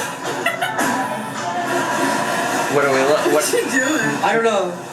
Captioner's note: mom laughs